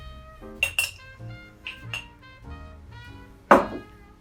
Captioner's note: glass clinks